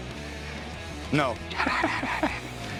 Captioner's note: chuckles